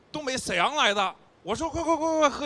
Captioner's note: northeast accent